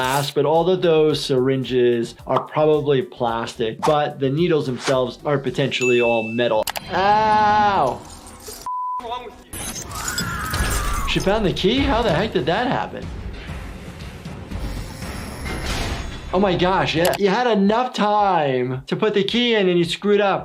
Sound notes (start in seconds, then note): 10.0 person screaming; 13.8 dramatic instrumental music